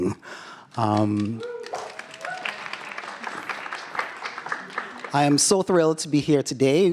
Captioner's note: applause